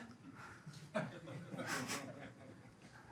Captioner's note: laughter